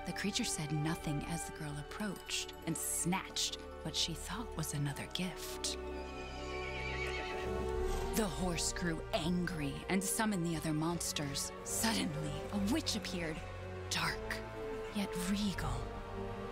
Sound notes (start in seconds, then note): none